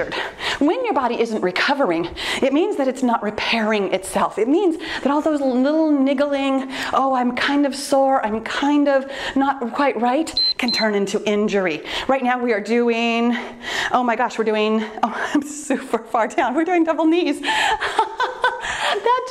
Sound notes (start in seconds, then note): 10.3 timer beeps; 17.7 laughing